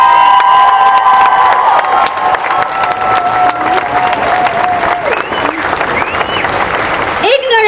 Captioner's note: cheering